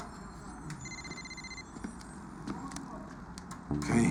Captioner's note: phone rings